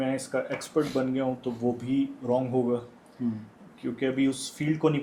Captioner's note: nasal noises